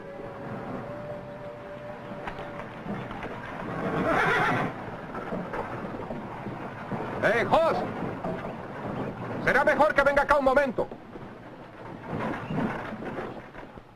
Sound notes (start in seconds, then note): 3.7 horse neighs